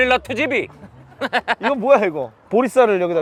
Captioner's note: laughing